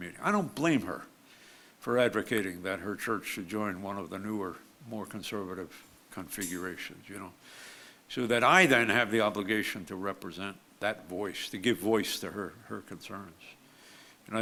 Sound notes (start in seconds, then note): none